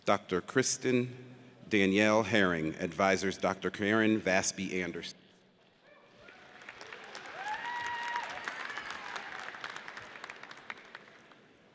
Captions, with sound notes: Dr. Kristen Danielle Herring. Advisor is Dr. Karrin Vasby Anders. (audience cheers)